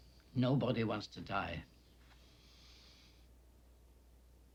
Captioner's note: inhales